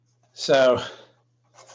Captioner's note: typing on calculator